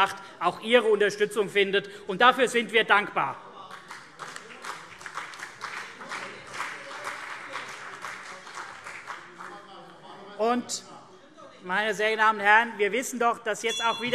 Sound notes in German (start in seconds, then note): 3.8 Vereinzelter Beifall CDU und BÜNDNIS 90/DIE GRÜNEN - Zurufe SPD